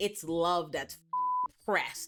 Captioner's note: beep